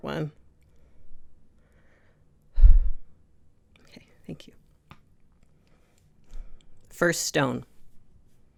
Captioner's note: takes a breath